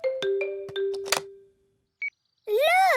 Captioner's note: clicks; meter beeping